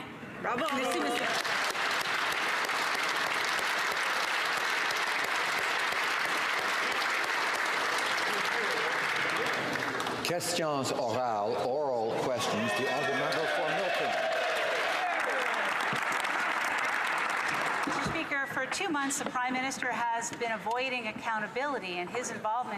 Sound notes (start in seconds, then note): 4.4 applause; 17.8 some Applause